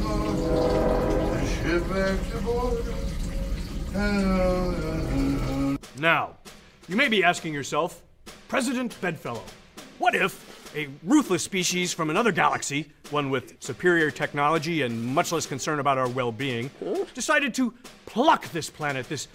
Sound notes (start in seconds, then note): 0.0 eerie music; 1.8 O'Brien mumbling